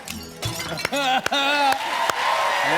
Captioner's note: shattering; laughs; cheers and applause